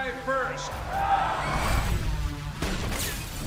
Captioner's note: gunfire